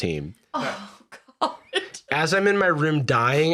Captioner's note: laughing